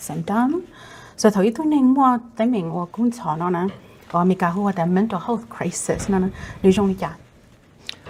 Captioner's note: Speaking in Hmong